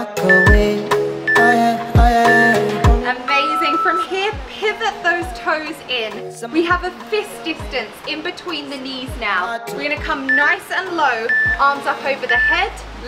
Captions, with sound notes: (timer beeps) Amazing. From here, pivot those toes in. We have a fist distance in between the knees now. We're going to come nice and low. Arms up over the head.